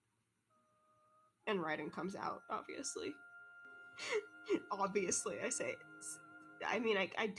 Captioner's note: laughs